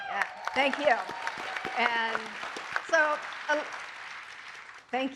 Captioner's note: applause